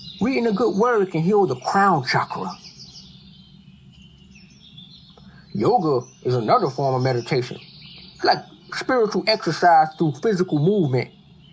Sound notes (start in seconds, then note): 2.9 birds chirping